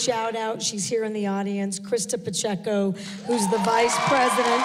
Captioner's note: applause